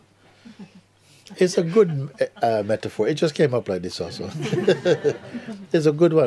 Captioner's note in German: Lachen